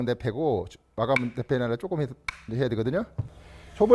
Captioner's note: hammering sound; hammering sound